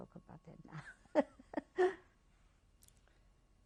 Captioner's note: laughs